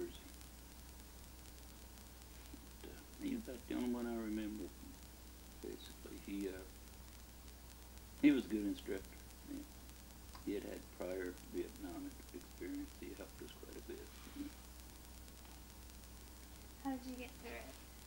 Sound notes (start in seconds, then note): none